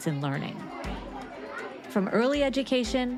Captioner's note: students chattering